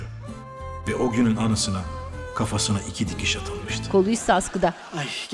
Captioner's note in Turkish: Ahmet dış ses